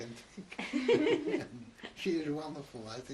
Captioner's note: laughter